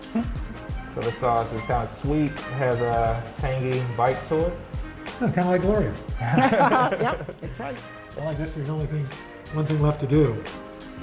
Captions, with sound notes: This sauce is kind of sweet. Has a tangy bite to it. - Kind of like Gloria. (laughter) - Yep! That's right. - One thing left to do.